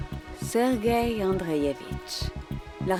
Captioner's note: speaking in foreign language